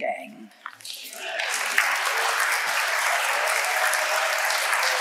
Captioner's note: audience applauding